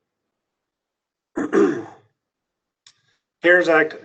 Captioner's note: clears throat